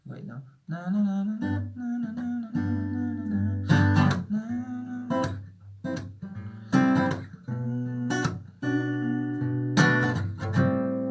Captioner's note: humming the tune